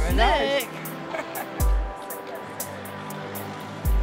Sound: laughs

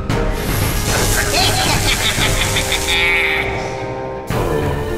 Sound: Psycholox laughs maniacally

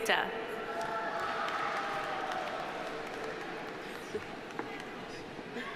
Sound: audience applauding

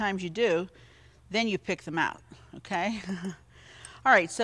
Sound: chuckles

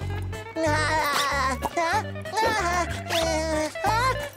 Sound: chuckles; chuckles

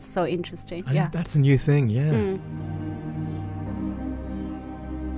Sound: voiceover

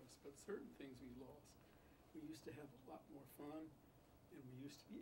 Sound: none

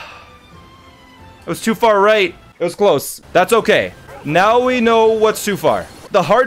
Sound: sighs

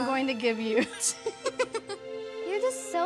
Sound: laughing

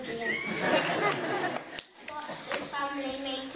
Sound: laughter

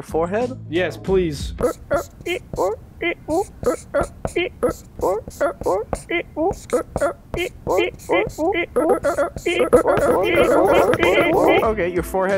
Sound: marker sounds

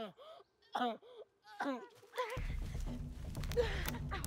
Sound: Mark coughs

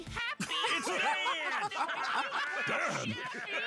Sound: all laughing

